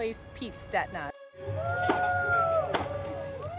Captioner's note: crowd applauding